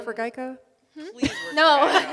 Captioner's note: audience laughs